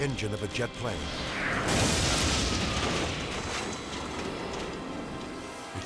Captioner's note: explosion booms